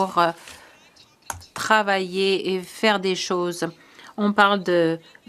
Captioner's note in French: voix de l'interprète